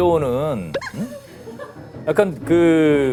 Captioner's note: hahaha